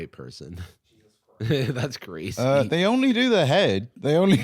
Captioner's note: laughs